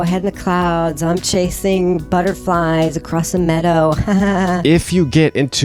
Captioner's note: fake laughs